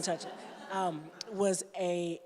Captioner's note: laughter